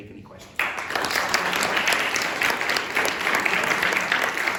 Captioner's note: applause